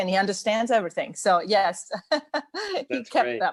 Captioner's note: laughs